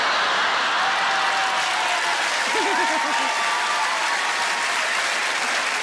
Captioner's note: audience laughing; audience clapping